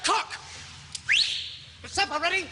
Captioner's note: whistles